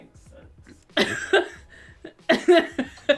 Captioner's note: laughs